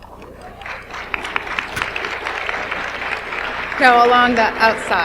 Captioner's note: audience applauds